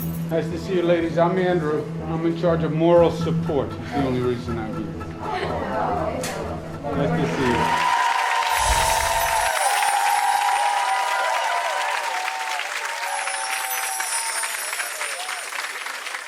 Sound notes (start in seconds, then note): 7.1 audience applauding; 8.5 chimes